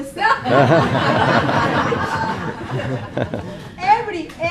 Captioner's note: laughing